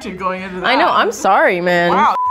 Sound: beeping

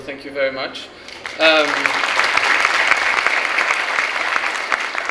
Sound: clapping

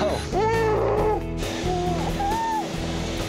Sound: grunts

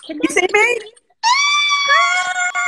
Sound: squeals

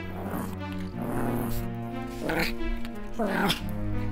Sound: monkey growling

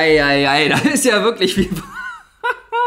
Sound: laughs

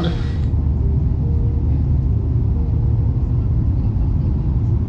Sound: plane engine revving

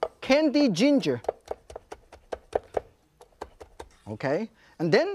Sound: knife chops

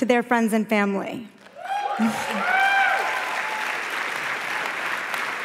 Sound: applause

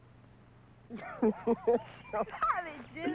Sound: laughing

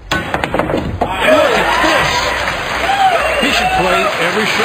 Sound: ball smashing; audience cheering

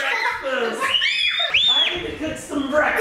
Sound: scream

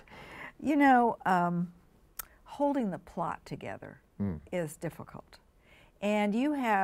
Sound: chuckles

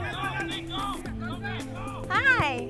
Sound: players shouting

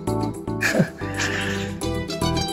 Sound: chuckling

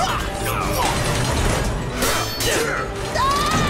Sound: grunting; screaming

